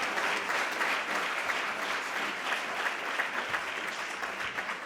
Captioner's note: applause